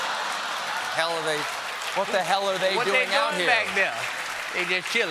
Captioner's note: laughter